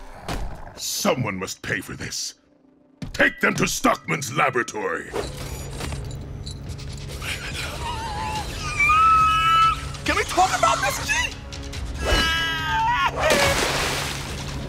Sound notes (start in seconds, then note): 7.1 squealing; 13.2 splashing